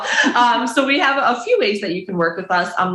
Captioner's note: chuckles